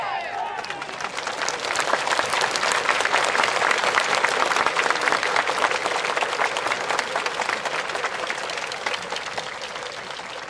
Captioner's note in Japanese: 拍手